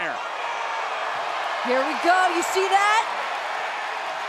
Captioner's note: applause